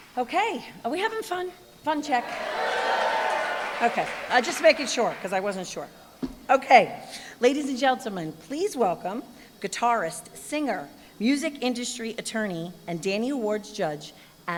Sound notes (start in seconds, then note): 2.2 cheering, applause